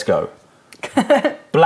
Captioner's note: laughter